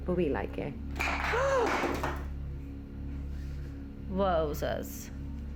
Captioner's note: woman gasping; object clattering